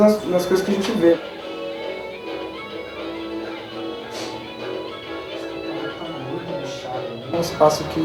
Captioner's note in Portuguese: Sons da televisão